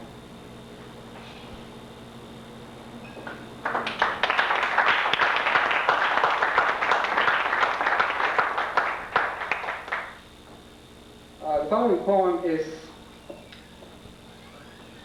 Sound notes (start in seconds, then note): 3.6 applause